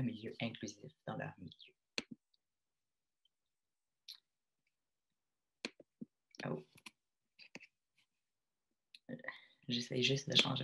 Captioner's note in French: silence